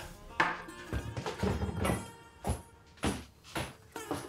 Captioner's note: footsteps thudding